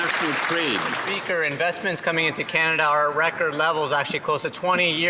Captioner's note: some Applause